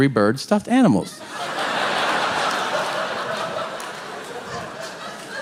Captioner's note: audience laughing